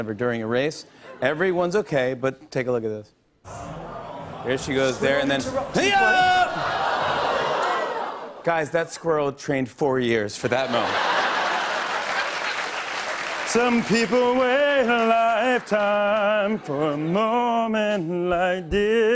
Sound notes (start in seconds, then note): 6.7 audience groans; 10.4 laughter and applause